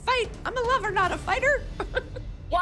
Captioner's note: chuckles